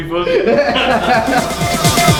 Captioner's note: all laugh; electronic music